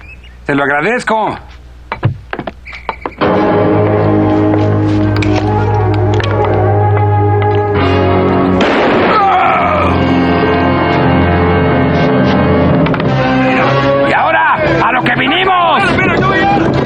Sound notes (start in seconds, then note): 10.5 groans; 14.9 men shouting in native language